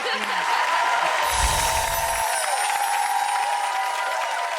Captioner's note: Amanda laughs; audience cheers